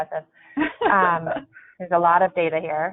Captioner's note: chuckling